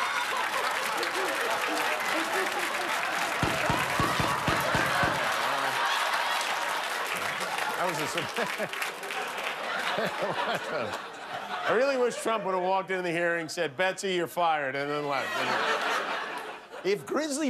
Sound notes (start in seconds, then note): 7.9 laughter